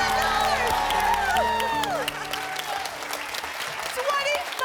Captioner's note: cheering and applause